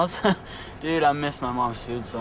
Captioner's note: laughs